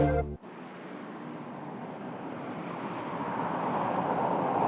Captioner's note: car tires hum